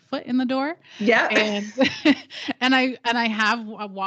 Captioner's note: giggles